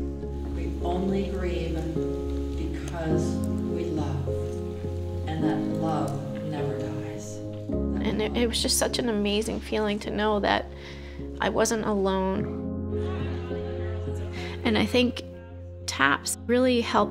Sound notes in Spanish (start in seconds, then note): 12.4 Conversaciones indistintas